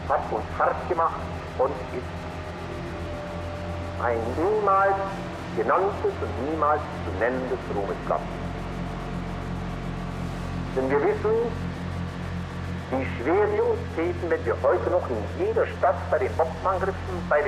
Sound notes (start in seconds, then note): 0.6 Himmler continues speaking German